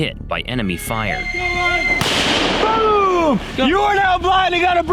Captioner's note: missile whistles; missile explodes